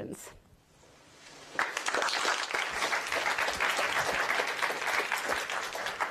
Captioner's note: applause